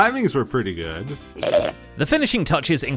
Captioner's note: shulker burps